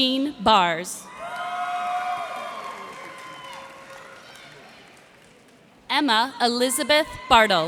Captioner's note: cheers and applause